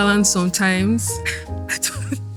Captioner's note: laughs